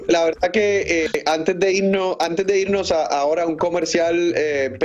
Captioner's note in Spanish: risas